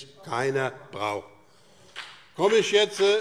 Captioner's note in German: Beifall BÜNDNIS 90/DIE GRÜNEN